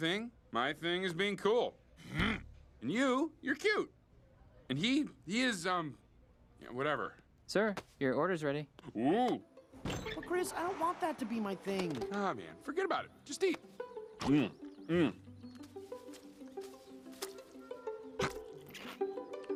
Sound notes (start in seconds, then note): 14.2 chomp; 18.2 Crunch